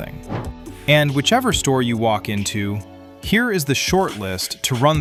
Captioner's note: thoughtful